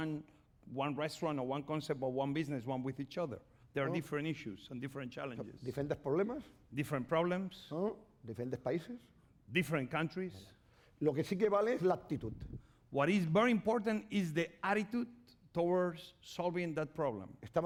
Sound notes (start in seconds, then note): 6.2 speaking spanish; 8.5 speaking spanish; 11.9 speaking spanish